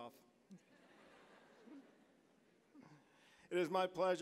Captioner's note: audience chuckling